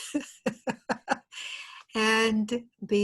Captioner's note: laughter